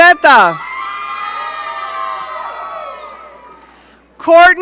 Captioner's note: audience cheering